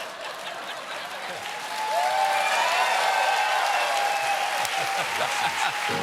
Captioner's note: cheers and applause; laughter